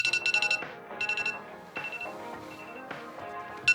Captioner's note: phone alarm